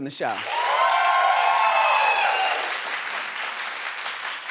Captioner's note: audience applauding